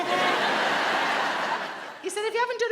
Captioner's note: chuckles exaggerated; audience laughs